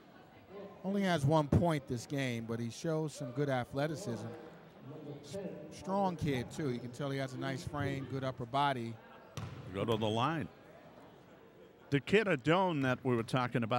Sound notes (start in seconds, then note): 9.4 ball pounding